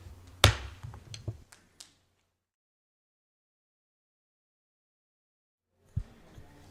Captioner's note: gavel smacking